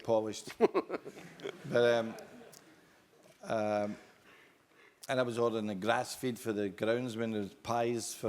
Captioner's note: laugh